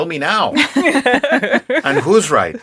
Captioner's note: laughing